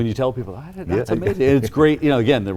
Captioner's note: chuckles